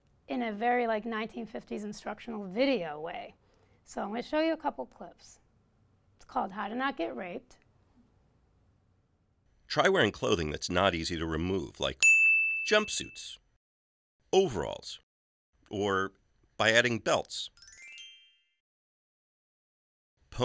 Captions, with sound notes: in a very like 1950s instructional video way. So I'm gonna show you a couple clips. It's called How to Not Get Raped. - [Voiceover] Try wearing clothing that's not easy to remove like (bell dings) jumpsuits, overalls or by adding belts. (sparkling music)